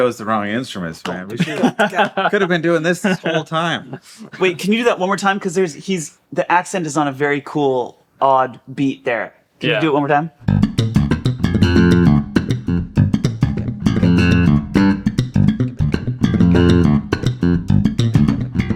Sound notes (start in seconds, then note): 3.9 laughing